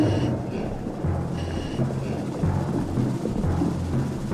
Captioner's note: deep moans